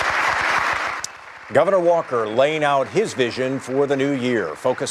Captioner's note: applause